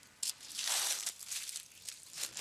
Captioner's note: rustling